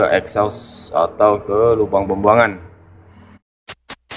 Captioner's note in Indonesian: exhaust